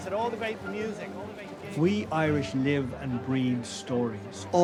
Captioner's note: voice-over